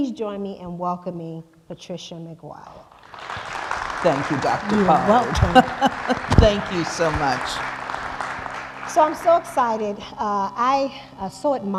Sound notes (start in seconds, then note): 4.5 applause